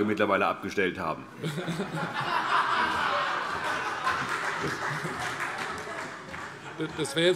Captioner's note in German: Heiterkeit